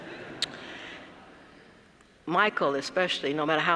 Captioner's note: laugh